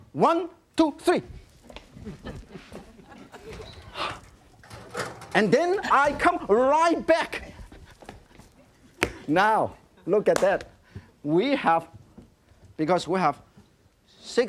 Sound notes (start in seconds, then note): 2.0 audience laughing; 3.8 Yan exhales; 10.3 claps hands